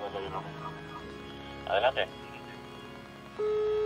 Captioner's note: police radio; sirens